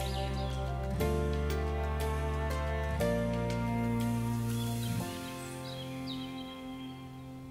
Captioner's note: birds chirping; light upbeat music